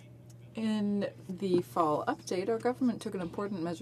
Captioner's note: speaking French